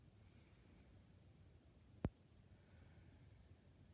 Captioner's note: breathing deeply